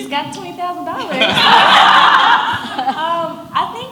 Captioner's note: audience laughs